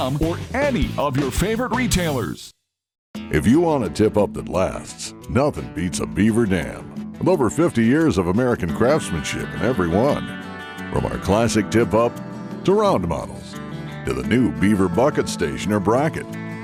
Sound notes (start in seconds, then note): 3.6 voiceover